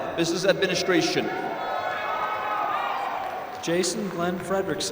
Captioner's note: applause